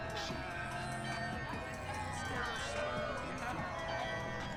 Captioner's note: people talking quietly